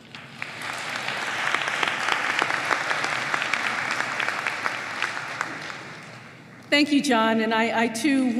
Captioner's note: applause